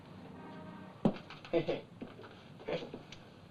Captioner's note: chuckling